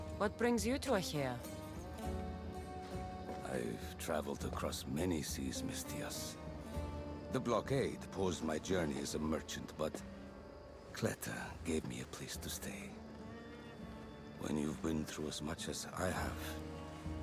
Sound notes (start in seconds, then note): none